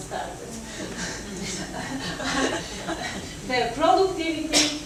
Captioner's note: audience laughs